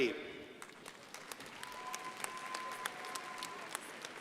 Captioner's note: crowd applauding